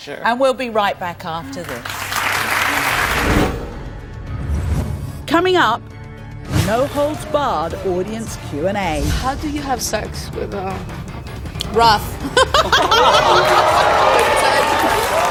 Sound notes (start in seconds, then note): 12.2 laughs